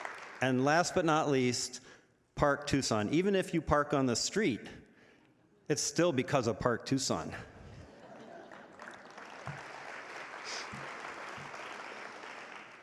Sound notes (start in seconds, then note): 0.0 audience applauding; 7.7 audience laughing; 8.2 audience applauding